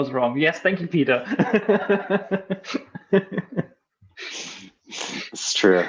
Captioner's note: laughing